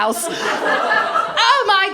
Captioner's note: laughter